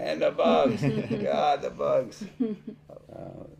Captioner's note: chuckling